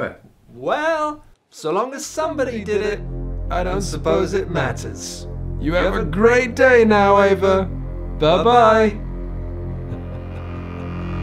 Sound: evil laughter

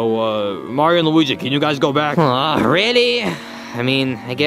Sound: grunts

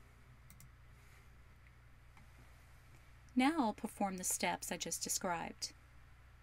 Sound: voiceover - female speaker

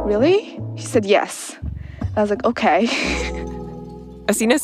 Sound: laughs

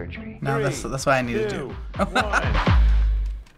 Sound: laughs

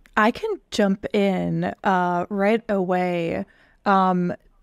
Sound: none

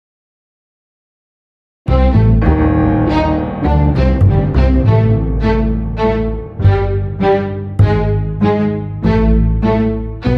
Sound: sound of horrific spookiness

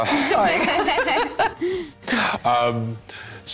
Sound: laughter

